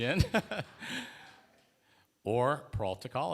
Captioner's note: laughter